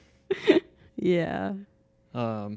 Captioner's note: laughing